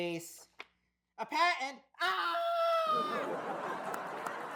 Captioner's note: screams